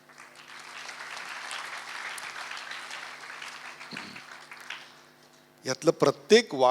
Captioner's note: audience applauds